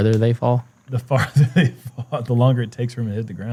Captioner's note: chuckles